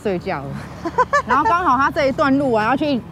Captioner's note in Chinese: 哈哈哈